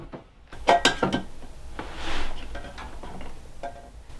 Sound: metal clanging

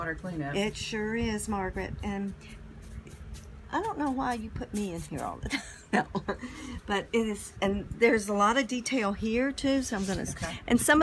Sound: laugh

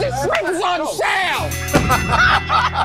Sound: ding!

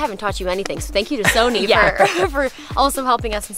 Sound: light laughter

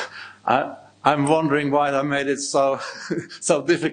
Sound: chuckling

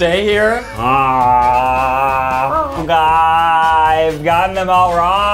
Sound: growls

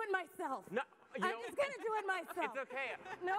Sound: audience laughs

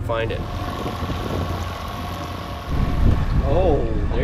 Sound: boat engine humming

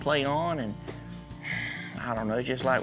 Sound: sighs

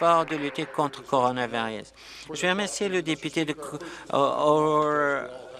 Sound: applause

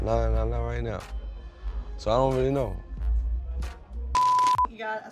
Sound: beep

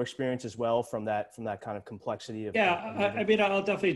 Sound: murmurs

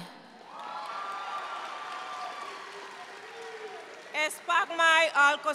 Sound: audience cheering and applauding

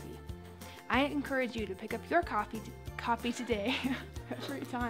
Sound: laughs

